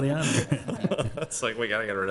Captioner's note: chuckles